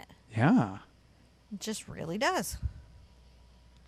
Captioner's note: none